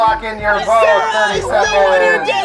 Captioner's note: all yelling